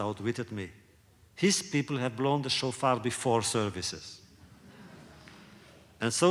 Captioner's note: laughter